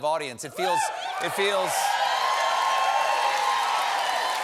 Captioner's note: cheers and applause